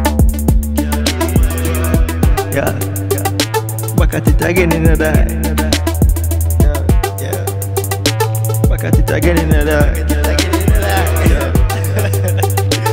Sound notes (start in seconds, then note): 11.9 laughs